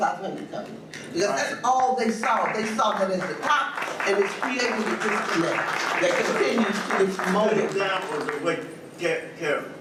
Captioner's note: audience beings to applaud